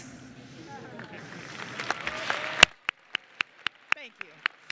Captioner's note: applause and Cheering